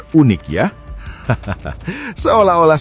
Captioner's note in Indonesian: tertawa